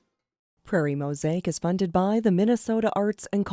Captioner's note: voiceover